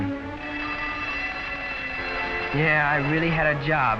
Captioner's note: bell ringing